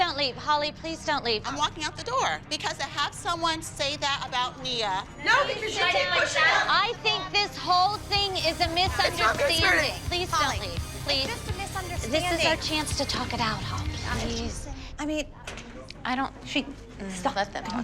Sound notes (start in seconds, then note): none